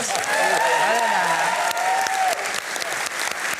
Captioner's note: applause